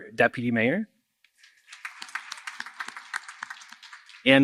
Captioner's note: applause